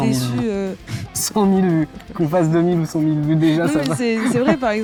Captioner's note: laugh